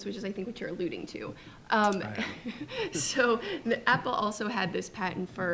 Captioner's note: chuckles